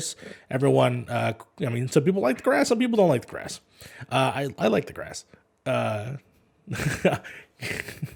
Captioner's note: laughs